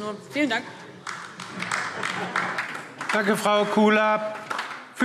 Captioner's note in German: Beifall DIE LINKE